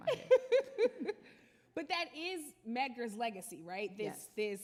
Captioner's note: laughs